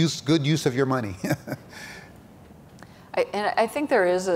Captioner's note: chuckles